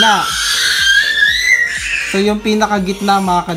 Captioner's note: baby shouting